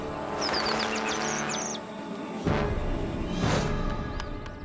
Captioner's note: birds screeching